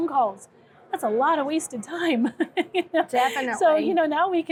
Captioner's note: laughing